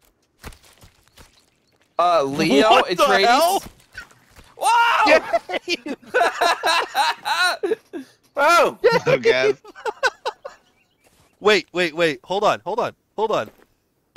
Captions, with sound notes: Leo? Etreides? What the hell? Whoa! *group laugher* What's up, guys? Dave... *laughter* Wait... Wait, hold on!